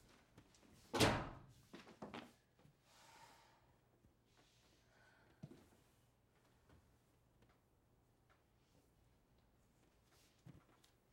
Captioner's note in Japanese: ドアが閉まる音